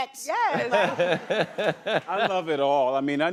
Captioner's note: laughter